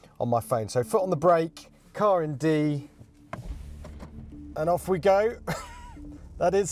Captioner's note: laughs